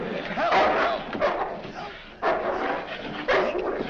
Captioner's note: barking